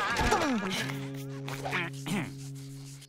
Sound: clears throat

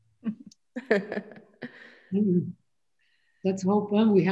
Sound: laughs

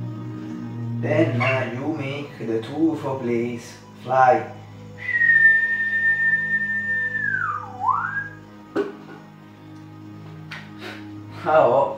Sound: whistle

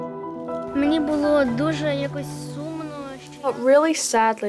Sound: speaks ukrainian

